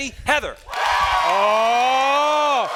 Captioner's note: students cheering